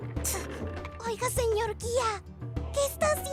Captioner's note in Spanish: Susurra